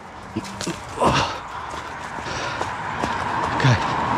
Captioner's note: grunts